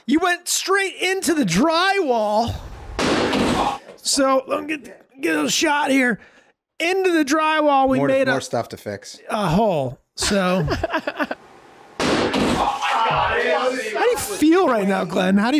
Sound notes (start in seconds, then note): 2.9 door slamming; 10.3 Meg laughing; 12.0 door slamming; 12.4 group chattering